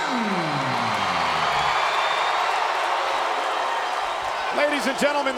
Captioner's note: crowd cheering